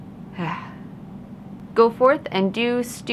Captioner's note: sighs